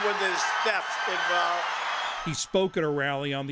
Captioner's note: cheering and applause